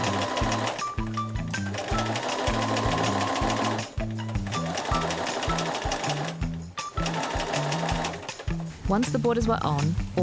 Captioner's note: sewing machine whirring